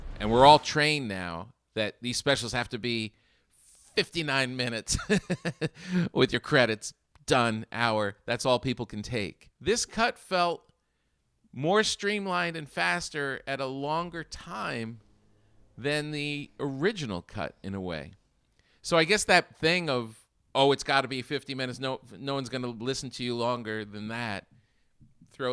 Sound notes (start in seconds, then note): 4.9 laughing